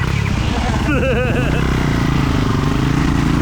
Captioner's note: engine revving